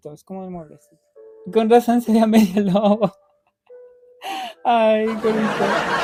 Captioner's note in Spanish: risas